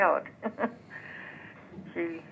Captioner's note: laughs